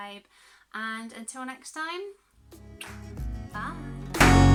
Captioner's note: kiss